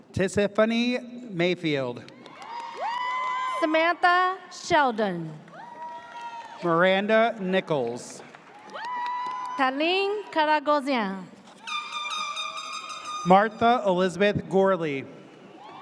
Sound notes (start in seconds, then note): 2.2 audience cheers; 5.5 audience cheers; 8.6 audience cheers; 11.6 air horn blares; 11.7 audience cheers